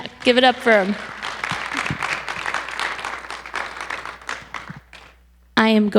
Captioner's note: audience applauding